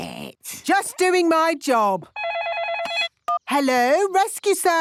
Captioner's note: phone ringing